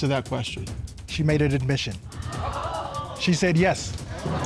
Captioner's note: audience gasp